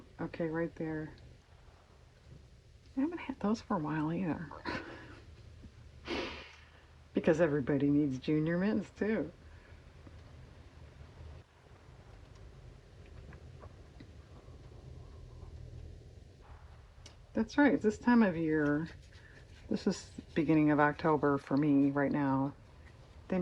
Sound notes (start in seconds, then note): 7.3 laughs